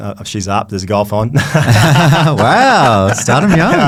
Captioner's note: both laughing